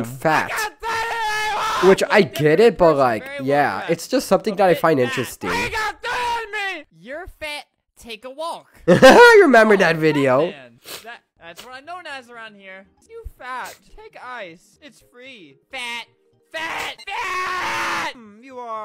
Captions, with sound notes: *laughs* I remember that video